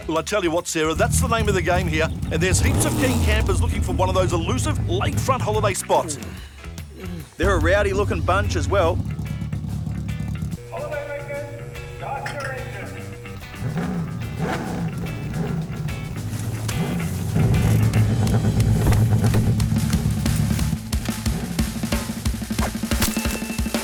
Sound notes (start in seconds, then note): 19.7 still being rowdy